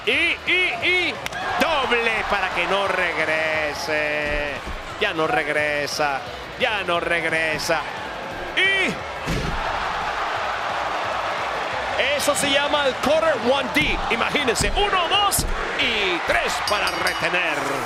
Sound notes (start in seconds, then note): 9.3 applause